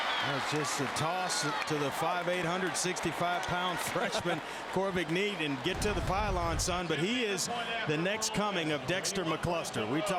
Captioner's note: crowd noise